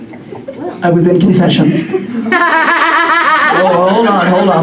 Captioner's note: woman cackles